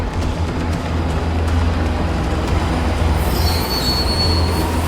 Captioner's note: train rattling